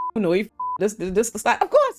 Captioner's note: beep